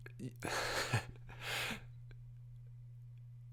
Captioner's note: laughs